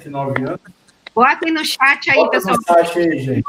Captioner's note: multiple voices